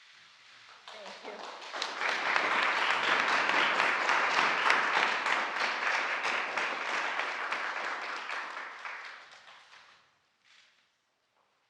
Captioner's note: applause